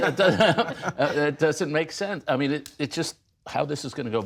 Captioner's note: laughter